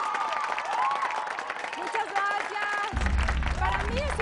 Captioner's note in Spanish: Gritos y exclamaciones